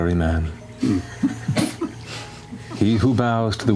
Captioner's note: chuckling